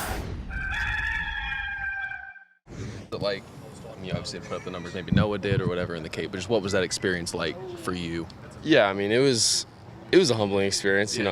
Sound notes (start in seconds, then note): 0.4 rooster crows